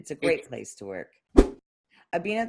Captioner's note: whoosh